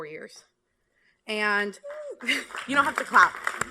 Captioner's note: applause